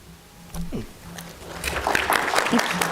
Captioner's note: applause